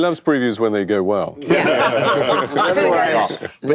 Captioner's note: laughter